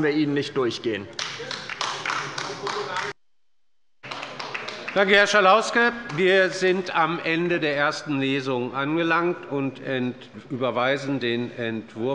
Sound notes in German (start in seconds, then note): 1.3 Beifall bei der LINKEN